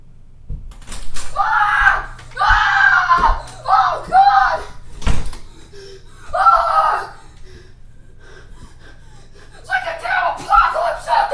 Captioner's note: gasp